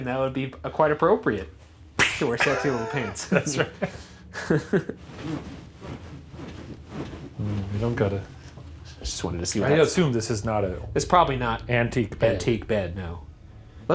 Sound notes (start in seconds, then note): 4.7 both laughing